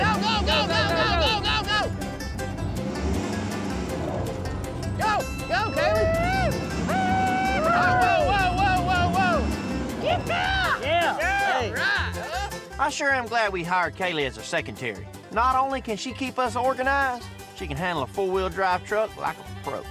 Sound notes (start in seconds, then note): 1.6 tires spinning; 6.8 cheering